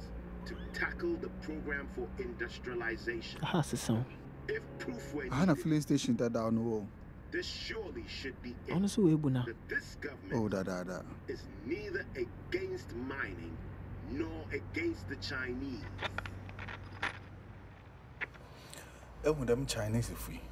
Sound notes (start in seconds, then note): 3.4 in Twi; 16.1 radio crackles